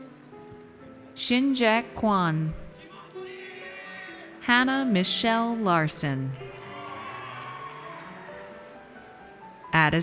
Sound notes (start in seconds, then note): 2.9 audience cheers; 6.3 audience cheers